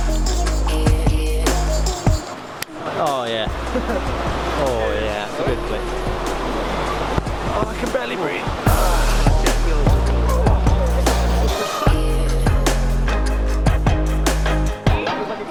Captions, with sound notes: Aww, yeah. Oh yeah. That's a good click. Oh, I can barely breathe! (grunts on impact) (upbeat pop music)